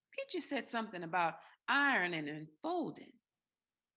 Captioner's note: none